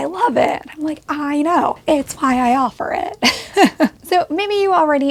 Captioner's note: chuckles